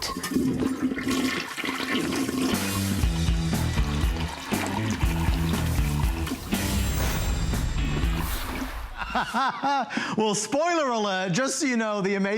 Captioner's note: laughter